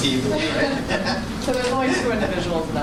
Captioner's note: laughter